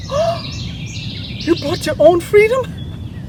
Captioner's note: gasps